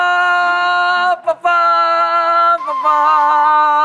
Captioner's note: arguing